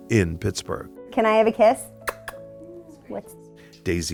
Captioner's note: smacks lips